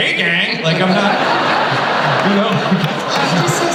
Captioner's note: laughter